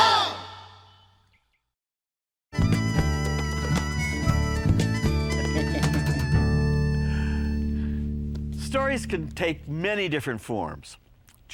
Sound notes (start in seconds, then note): 2.6 upbeat music; 5.3 laughing